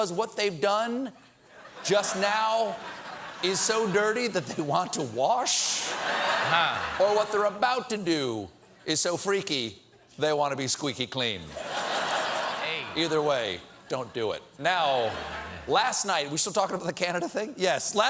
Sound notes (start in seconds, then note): 7.4 laughter